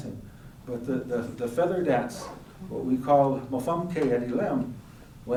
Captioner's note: speaking elem